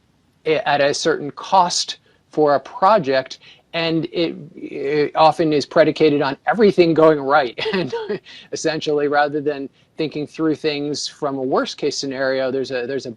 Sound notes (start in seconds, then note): 7.6 laughs